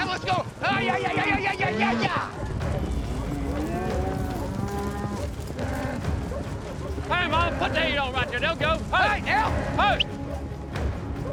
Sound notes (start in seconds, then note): 3.1 mooing, hoofbeats; 7.5 prompting cattle, whistling